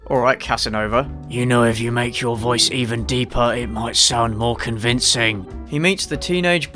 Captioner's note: manliest deep voice